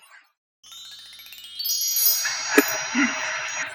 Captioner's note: sparkle